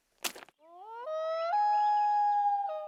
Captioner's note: howling